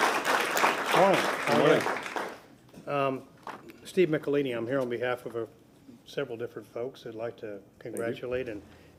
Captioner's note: applause